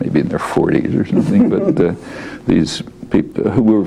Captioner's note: laughs